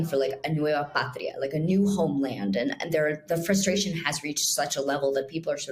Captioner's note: foreign language